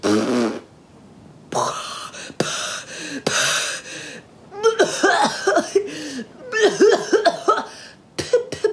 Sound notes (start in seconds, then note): 1.6 H2O gasps